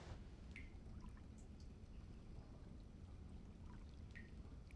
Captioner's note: water dripping